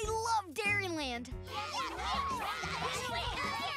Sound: cheering

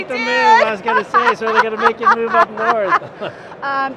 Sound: laughing

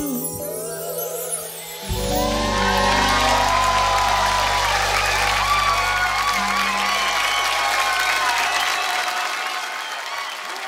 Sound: crowd cheers

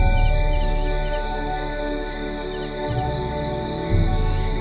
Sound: bells ringing; soft ambient music

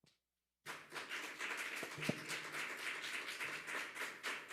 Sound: audience applauding

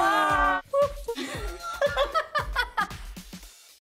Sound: giggling

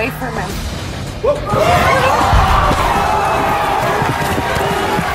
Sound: audience shouts

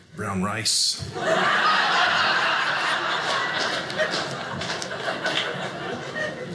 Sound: audience laughing

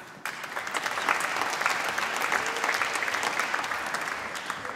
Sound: applause

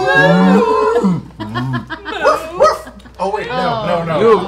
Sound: barks

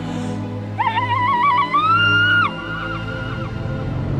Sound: uluating

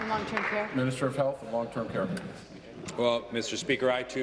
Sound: applause

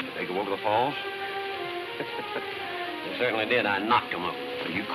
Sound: laughs

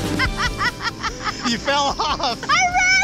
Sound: laughing

